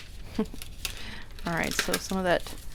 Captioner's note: chuckles